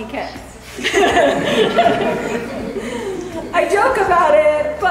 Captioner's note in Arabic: الكل يضحك